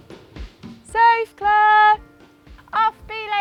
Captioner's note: shouting